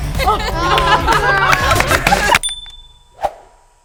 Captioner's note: all cheering